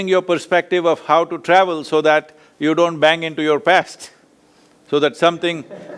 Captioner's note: laughs